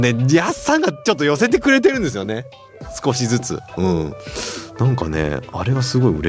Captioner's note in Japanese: 鼻息